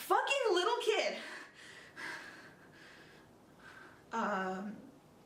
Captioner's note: deep breathing